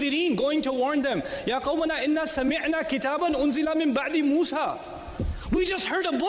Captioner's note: recited